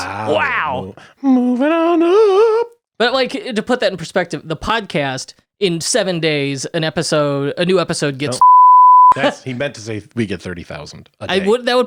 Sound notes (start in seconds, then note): 8.4 beep